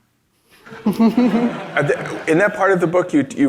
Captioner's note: audience laughs